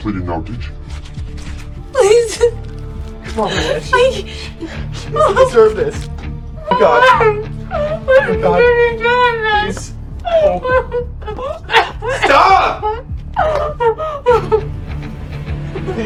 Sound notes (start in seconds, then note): 3.0 sobs; 10.2 Lucy sobs; 10.3 Lucy coughs; 13.3 Lucy sobs